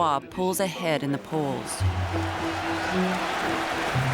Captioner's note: cheering; applause and cheering